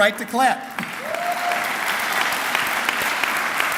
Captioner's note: clapping